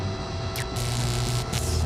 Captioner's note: electric zapping